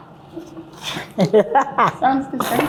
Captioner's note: laughs